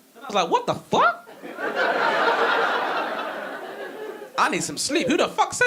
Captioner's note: audience laughing